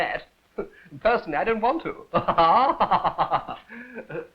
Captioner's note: laughs